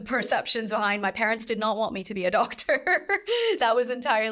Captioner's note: chuckles